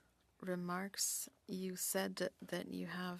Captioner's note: speaking French